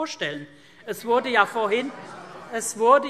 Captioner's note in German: Zurufe